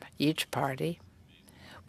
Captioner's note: speaking French